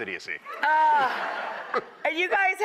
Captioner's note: laughing